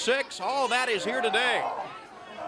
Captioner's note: crowd chatter